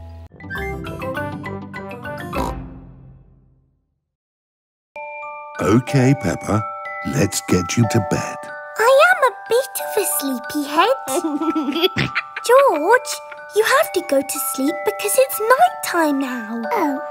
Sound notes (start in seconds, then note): 2.3 oink; 11.0 laughs